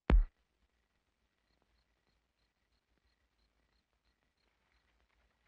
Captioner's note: crickets chirrup